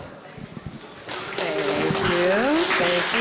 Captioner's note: applause